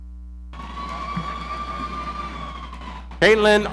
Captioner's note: audience cheering